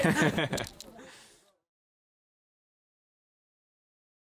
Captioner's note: laughing